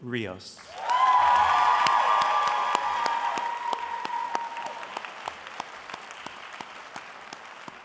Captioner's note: applause